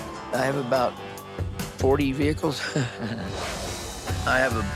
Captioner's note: laughs